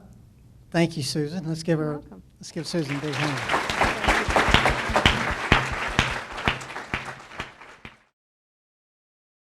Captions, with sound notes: - Well, thank you Susan. Let's give her, let's give Susan a big hand. (applause)